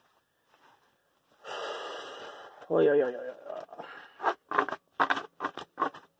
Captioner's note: sigh